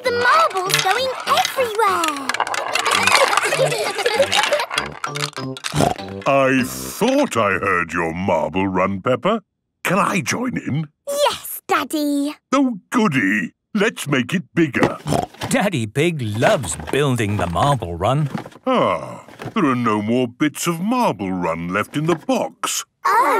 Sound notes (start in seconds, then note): 3.1 laughter; 4.0 snorting; 15.0 snorting